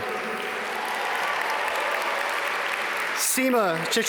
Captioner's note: audience cheer and applaud